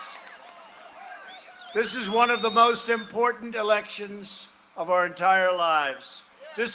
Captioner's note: cheering and applause